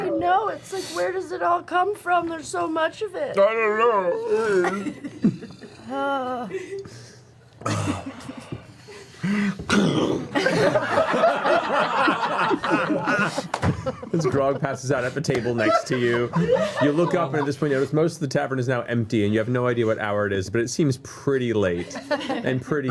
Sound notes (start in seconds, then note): 4.4 laughter